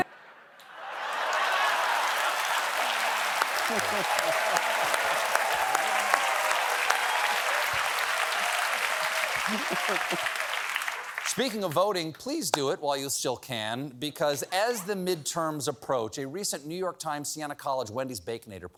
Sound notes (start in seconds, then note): 0.7 applause